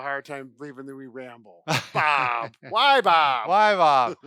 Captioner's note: laughs